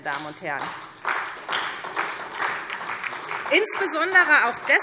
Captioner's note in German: Beifall SPD und vereinzelt DIE LINKE